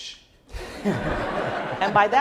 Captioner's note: laughing